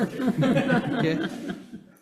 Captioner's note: laughs